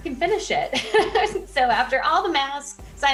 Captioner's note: laughing